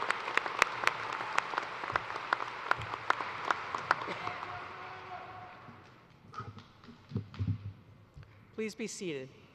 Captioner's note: cheers and applause